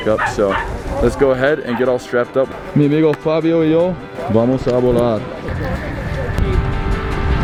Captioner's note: speaking Spanish